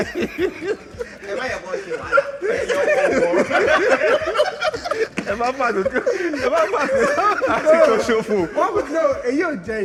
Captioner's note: everyone laughs